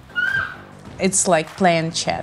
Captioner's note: squealing